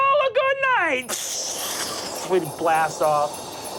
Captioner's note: mimics air whooshing